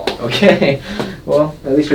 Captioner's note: doctor laughs